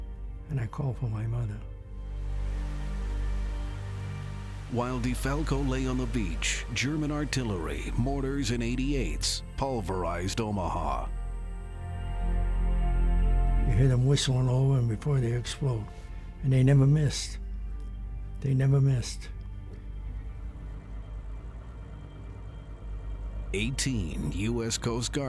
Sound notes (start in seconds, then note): 3.9 emotional music; 4.3 waves gushing; 12.8 emotional music; 21.5 emotional music